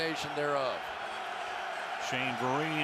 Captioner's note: cheering